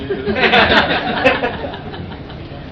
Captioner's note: laughing